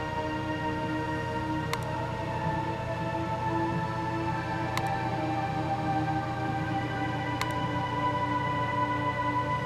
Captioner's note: angry clicking